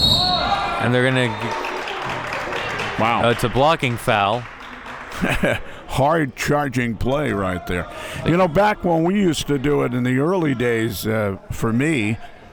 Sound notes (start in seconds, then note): 5.0 laughs